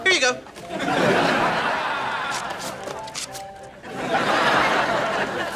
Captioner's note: audience laughing